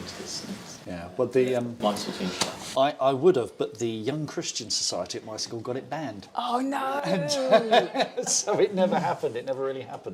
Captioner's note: laughs